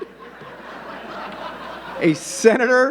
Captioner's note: audience laughing